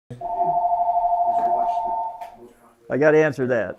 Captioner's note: phone ringing